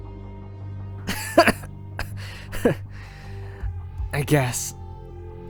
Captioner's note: choking laugh